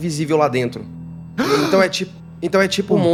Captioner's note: gasps